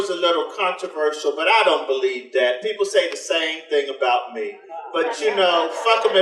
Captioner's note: audience laughter